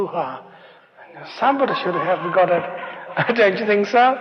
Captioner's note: laughter